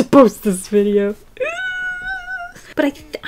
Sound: nervous squeal

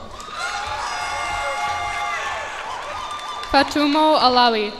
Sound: cheers and applause

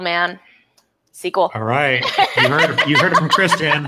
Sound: laughs

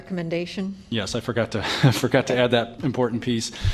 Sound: laughter

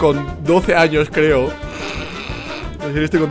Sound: laughing

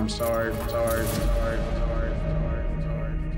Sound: echoing "Sorry, sorry, sorry"

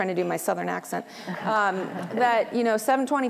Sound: laughter

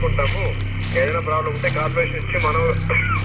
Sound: walky talky

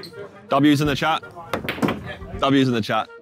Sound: pool balls colliding

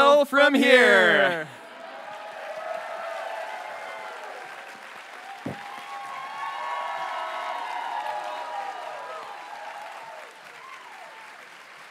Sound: audience cheers and applauds

